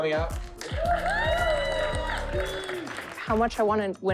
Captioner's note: team cheers and applauds